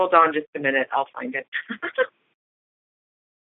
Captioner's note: chuckle